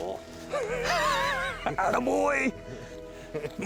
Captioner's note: men laughing